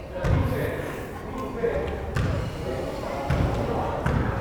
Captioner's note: crowd chattering